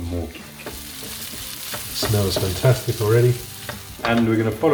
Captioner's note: food sizzling